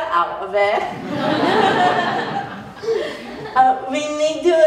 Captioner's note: laughter